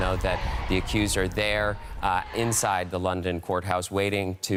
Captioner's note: indiscernible screaming